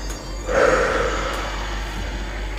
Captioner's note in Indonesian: menghela nafas